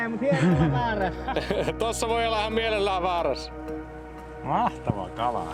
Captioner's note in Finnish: naurua